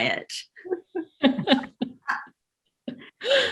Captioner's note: laughs